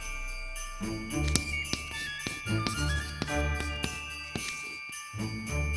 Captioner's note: scritch scratch 👨‍🏫